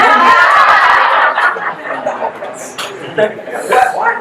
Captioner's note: guests laugh